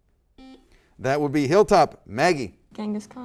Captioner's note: buzzer